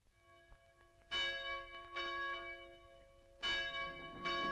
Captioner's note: bells ringing